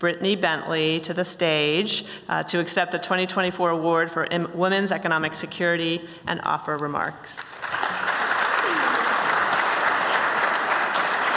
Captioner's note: applause